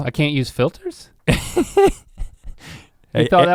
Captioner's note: Rhett chuckles